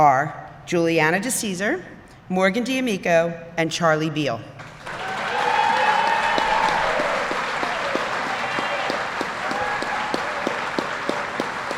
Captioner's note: applause